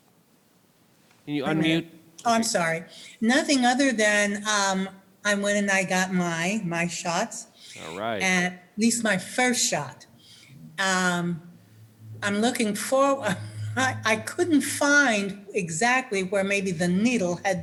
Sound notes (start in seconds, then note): 13.2 chuckles